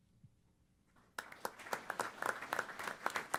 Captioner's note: applause